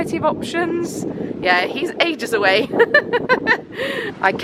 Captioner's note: laughing